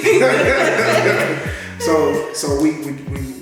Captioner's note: both laughing